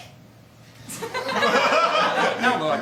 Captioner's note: laughter